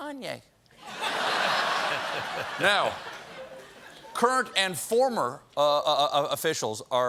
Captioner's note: laughter